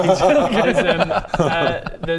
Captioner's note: walk of shame laugh